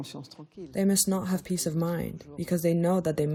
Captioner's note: through translator